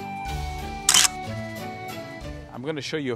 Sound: camera clicks

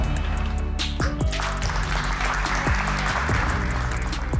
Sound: clapping

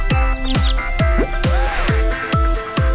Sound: gasping

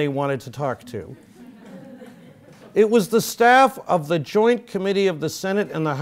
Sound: laugh

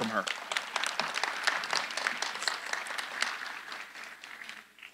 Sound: audience applauding

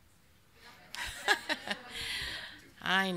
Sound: laughs

